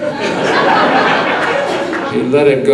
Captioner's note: audience laughing